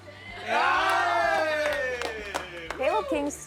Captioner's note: group yells